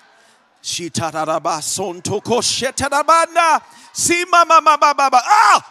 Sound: congregation laughs; speaking in tongues

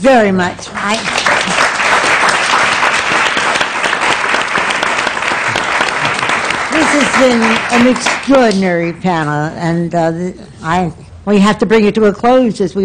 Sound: applause

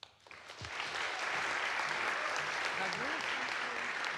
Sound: audience applauds

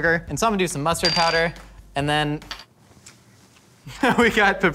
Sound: laughs

